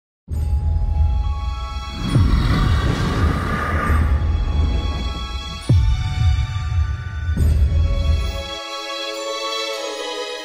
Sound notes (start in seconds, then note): 1.8 soft Growl Over Music